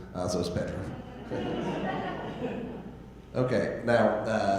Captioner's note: audience laughing